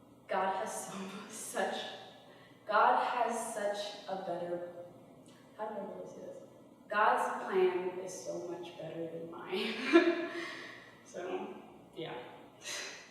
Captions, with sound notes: God has so . . . God has such a good . . .such a better . . . How do I put this? God's plan is so much better than mine. [laughter] So yeah.